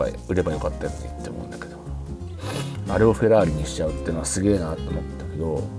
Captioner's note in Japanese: 鼻息